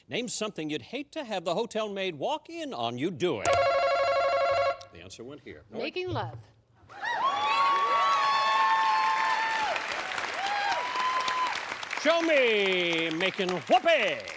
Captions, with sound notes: Name something you'd hate to have the hotel maid walk in on you doing. [buzzer] The answer went here. - Making love. [cheering] - Show me making whoopee.